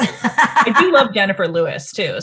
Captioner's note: laughs